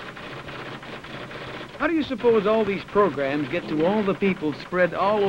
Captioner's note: typewriter clicks and clacks